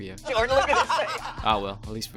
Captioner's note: laughs